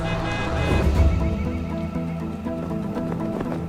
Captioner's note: horns honking